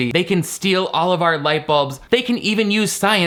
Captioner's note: none